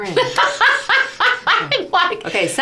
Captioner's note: laughs